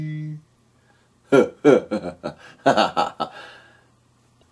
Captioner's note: laughing